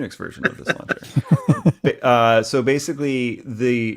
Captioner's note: laughing